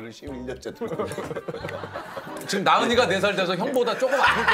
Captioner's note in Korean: 웃음소리; 웃음소리